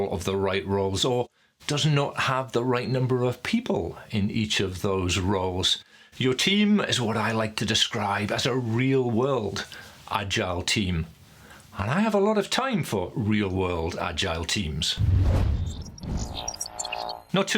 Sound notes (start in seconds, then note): 15.0 whooshing; 15.8 buzzing